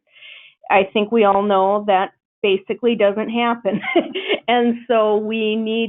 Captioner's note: laughs